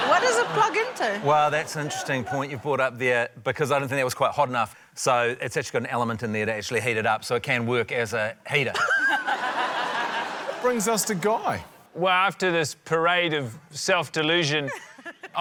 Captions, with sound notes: - What does it plug into? - Well, that's an interesting point you've brought up there, because I didn't think that was quite hot enough, so it's actually got an element in there to actually heat it up, so it can work as a heater. (LAUGHTER) - Brings us to Guy. - Well, after this parade of self-delusion,